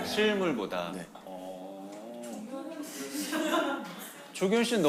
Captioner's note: murmur